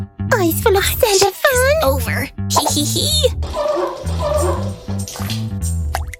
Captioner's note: whispering